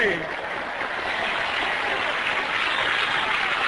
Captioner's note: applause